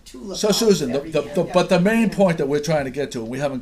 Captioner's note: voiceover